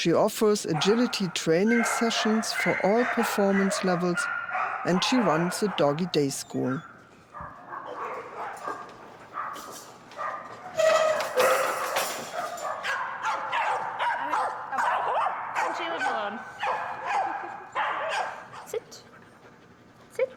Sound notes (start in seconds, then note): 7.9 dogs barking; 17.1 laughs